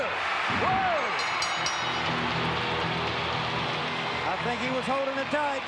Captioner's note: audience cheering; ring bell dinging